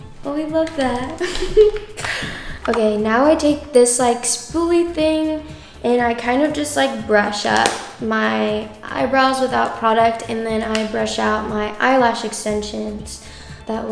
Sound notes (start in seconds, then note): 1.2 laughs; 3.7 bell chimes